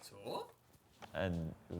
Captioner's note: speaks in foreign language